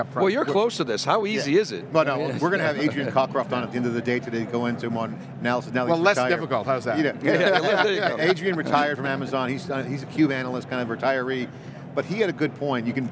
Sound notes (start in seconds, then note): 3.2 laughing; 7.2 group laughing